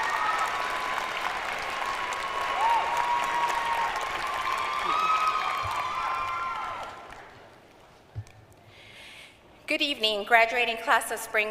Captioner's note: applause